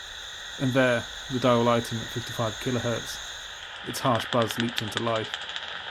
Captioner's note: bat clicks sound